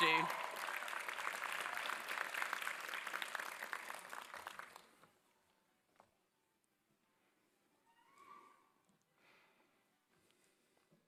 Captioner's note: applause